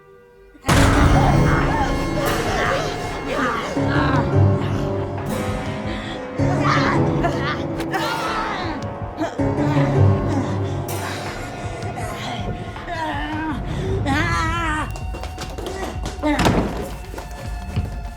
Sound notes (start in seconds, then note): 0.7 Dorothy screaming; 0.7 Glinda grunting; 0.7 dramatic music; 1.9 Glinda continues grunting; 15.0 feet pattering; 15.9 door slamming; 17.9 door clattering